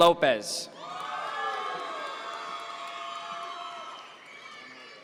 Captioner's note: audience members cheer